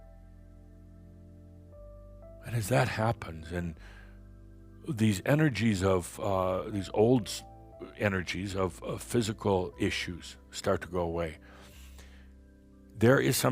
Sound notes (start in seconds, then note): none